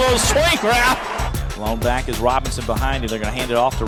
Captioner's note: voiceover